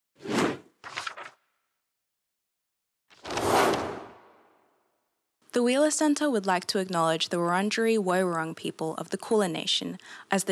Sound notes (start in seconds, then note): 0.1 air whooshing